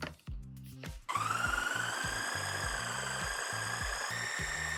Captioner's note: blender ASMR